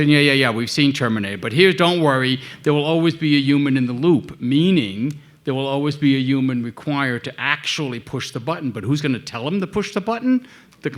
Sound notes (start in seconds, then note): none